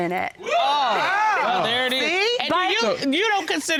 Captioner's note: all exclaiming